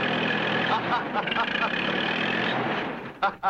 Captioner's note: laughs